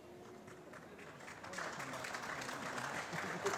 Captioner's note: applause